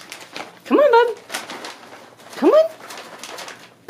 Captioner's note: plastic bag rustling